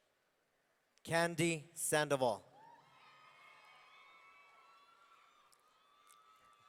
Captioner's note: audience cheering